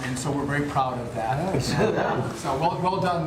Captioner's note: laughter